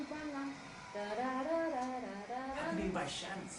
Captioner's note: humming